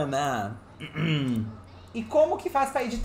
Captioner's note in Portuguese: pigarreia